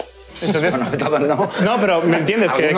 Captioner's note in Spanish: Risas